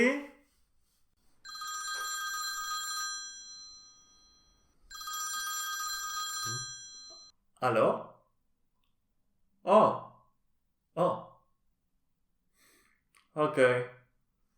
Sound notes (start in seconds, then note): 4.7 a phone rings